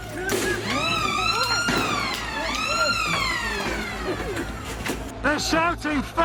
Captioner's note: sirens